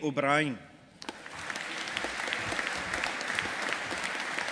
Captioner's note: audience applauding